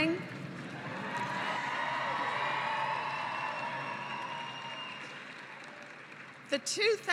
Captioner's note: cheering and applause